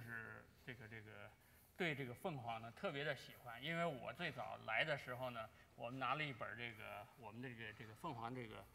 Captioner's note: speaking in Chinese